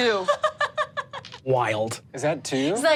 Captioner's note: Misty laughs